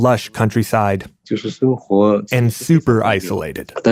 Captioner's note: speaking Mandarin Chinese